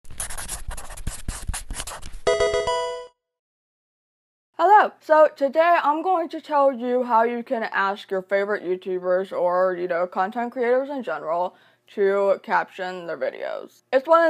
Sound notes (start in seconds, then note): 0.0 marker scratching; 2.2 electronic video game chime